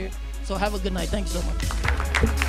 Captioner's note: applause